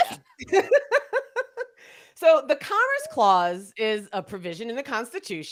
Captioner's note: laughs